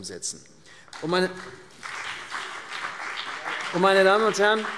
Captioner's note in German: Beifall CDU und BÜNDNIS 90/DIE GRÜNEN